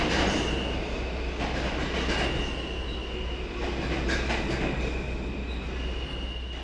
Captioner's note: subway stopping